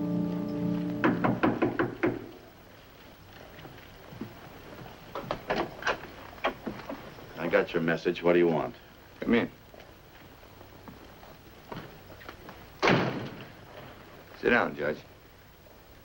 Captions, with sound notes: (soft knocking on door) - I got your message what do you want? - Come in. Sit down, Judge.